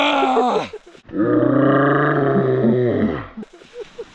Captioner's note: roars; slow motion scary roar